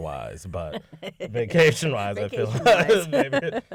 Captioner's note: laughter